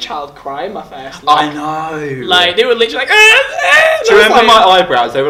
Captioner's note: cries like a child